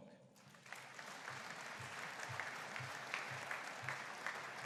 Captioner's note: audience applauding